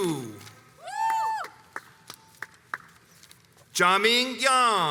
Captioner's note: audience members cheer